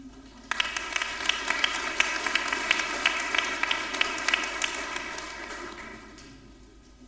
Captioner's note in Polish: oklaski